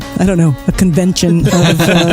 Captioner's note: laughs